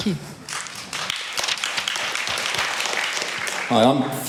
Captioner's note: applause